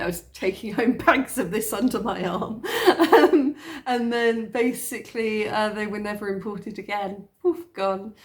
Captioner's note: laughing